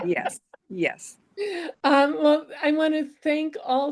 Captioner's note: laughter